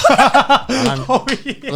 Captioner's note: both laughing